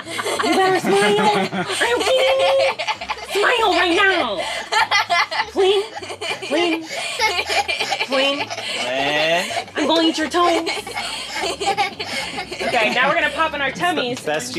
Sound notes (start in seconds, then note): 4.5 kids laughing